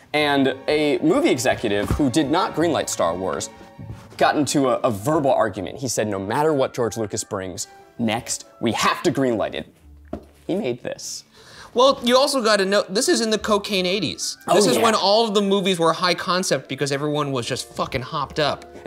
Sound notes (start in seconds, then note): none